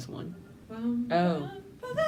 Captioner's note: humming